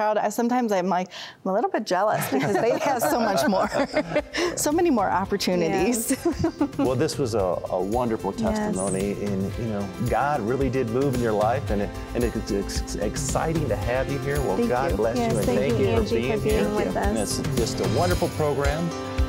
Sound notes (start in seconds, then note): 2.1 laughter; 5.9 giggling